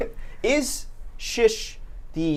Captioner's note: laughs